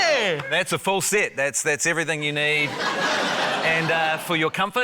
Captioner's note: laughter